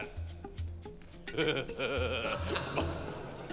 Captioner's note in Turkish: Gülme sesleri